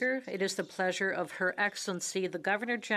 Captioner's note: speaking in French